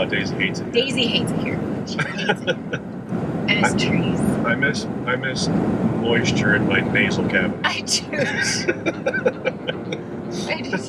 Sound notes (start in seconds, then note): 2.0 laughs; 8.1 laughs